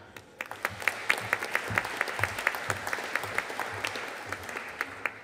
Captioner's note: audience applauding